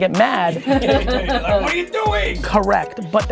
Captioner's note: everyone laughing